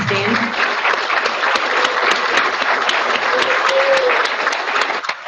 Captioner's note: audience applauding